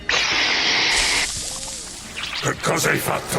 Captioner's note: leeches screeching